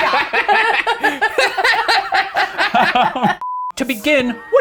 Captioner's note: all laughing